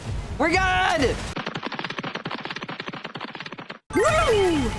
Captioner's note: cartoon running sfx